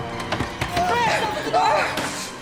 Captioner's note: hand pounding; Chris screams; Chris gasping